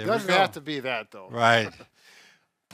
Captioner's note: chuckles